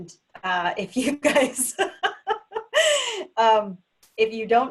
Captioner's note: laughs